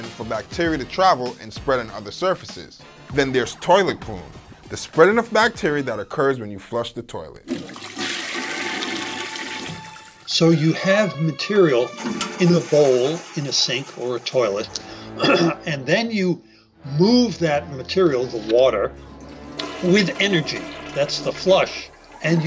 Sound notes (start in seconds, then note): 7.4 toilet flushes; 15.0 coughs